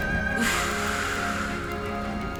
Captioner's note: breathing deeply